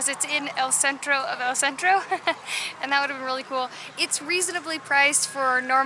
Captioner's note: laughter